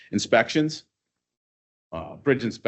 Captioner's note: none